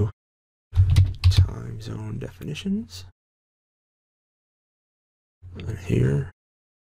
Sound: typing

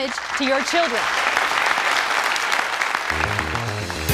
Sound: applause

